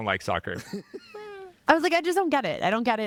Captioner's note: laughing